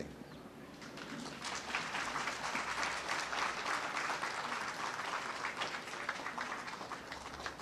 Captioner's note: applause